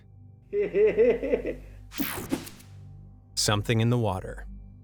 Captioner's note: creepy chuckle